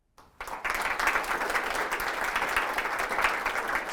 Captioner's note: applause